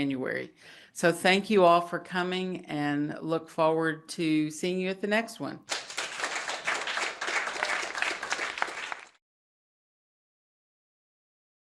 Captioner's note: applause